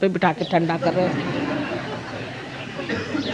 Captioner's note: laugh